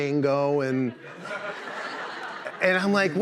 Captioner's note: laughter